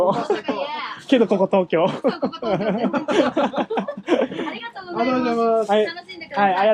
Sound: laughs

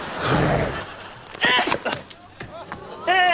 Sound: grunting

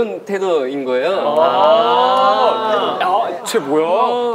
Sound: ohh

